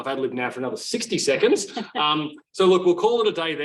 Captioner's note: laughs